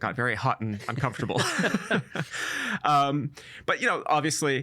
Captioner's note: both laughing